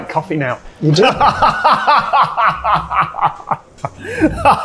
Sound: laughs

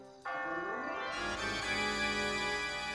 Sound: bell tolling

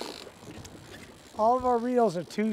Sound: reel spinning

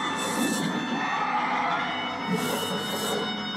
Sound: Noivern roars

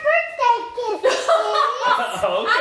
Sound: laughing

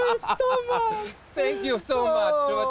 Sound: they laugh

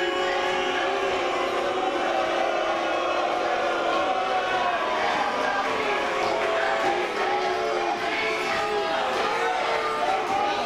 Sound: BOOs from audience

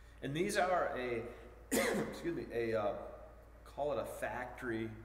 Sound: coughing

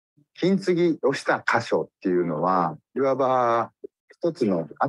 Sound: speaks in Japanese

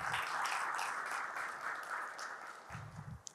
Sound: applause

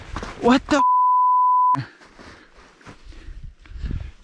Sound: beep

